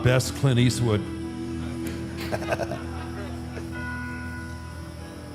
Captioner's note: audience and AJ laughs; dramatic music